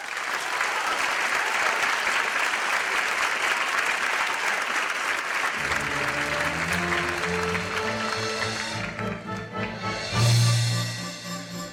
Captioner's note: applause